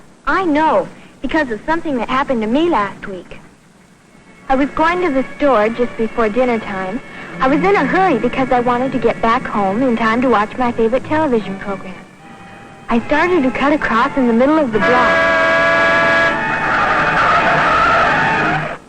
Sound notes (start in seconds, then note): 15.0 car beeps loudly; 16.5 brakes squealing